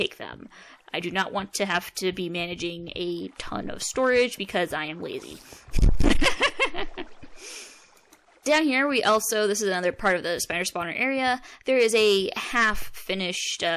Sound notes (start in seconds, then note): 5.3 mic peaking cackle